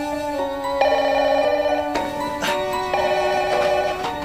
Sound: phone ringing

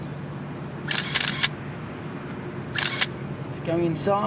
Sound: camera clicks

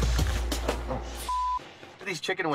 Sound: beep

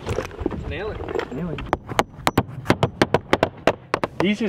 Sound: hammering

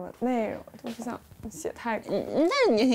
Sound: frustrated

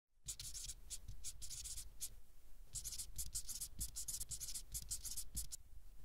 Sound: scribbling

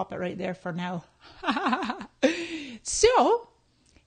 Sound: laughing

